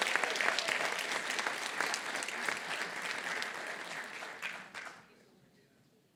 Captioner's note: applause